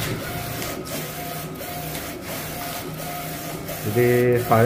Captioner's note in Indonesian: suara mesin printer